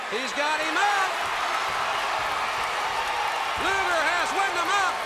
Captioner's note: crowd cheering